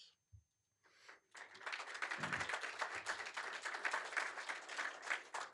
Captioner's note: applause